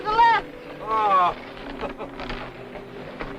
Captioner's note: chuckles